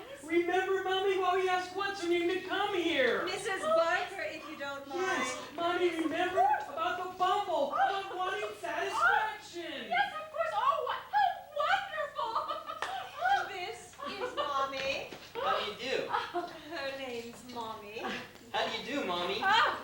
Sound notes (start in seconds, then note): 12.6 laughs